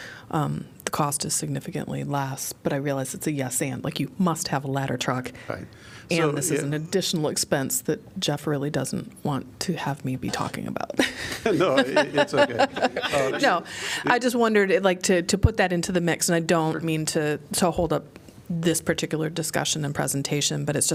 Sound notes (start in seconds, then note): 10.9 laughter